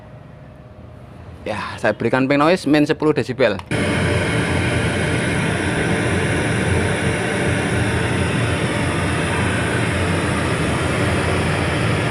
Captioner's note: pink noise signal generator